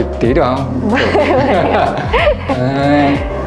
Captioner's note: laugh